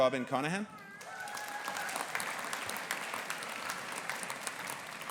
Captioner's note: audience applauding